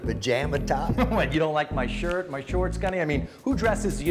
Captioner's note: laughter